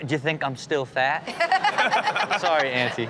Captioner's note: Chanel laughs